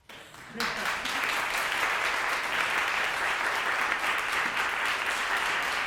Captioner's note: applause